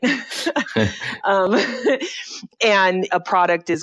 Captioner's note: laughter